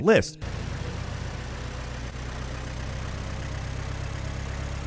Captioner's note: engine roaring